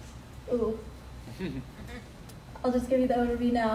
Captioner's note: man laughs